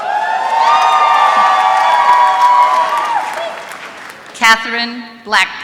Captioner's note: applause